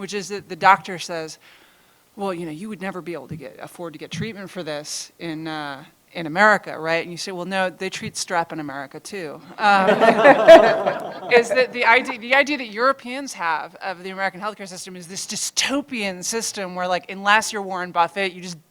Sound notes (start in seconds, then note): 9.5 laughter